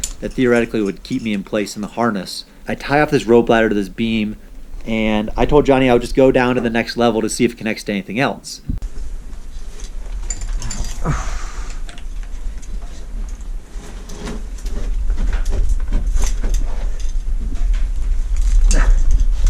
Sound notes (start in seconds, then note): 8.9 clattering and scraping; 8.9 grunting and sighing